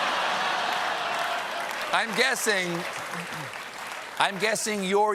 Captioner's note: applause; laughter